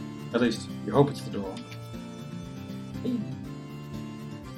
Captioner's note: none